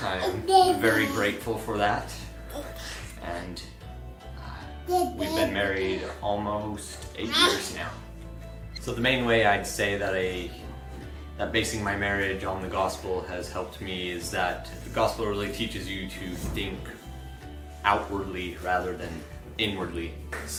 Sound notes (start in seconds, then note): 4.5 child murmuring